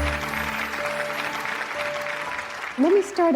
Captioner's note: audience clapping